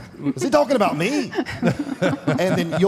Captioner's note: Michelle and Mark laughs